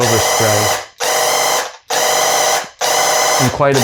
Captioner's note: paint gun blasting